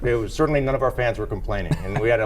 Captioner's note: laughter